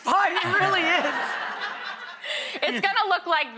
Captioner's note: audience and Tiffany laughing